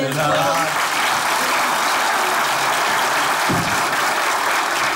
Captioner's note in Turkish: Alkış sesleri